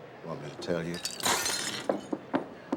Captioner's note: glass breaking